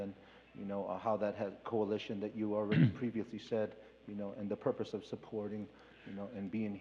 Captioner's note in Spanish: Expositor habla en inglés